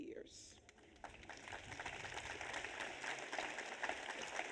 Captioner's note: audience applauds